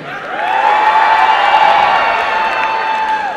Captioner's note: applause and cheering